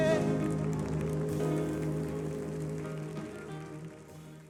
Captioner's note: audience applauding